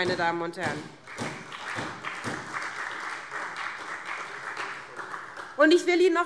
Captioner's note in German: Beifall SPD